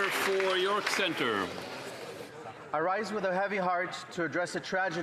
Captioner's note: some Applause